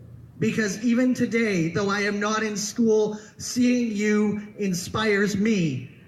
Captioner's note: none